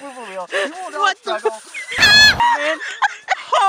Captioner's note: noot